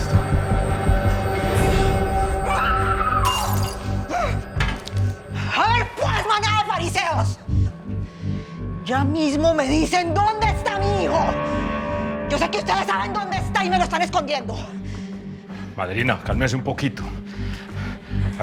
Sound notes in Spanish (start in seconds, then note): 2.5 Gritos; 2.9 Estrépito